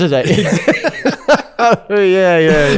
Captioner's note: laughs